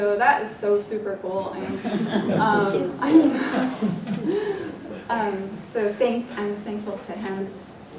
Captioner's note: laugh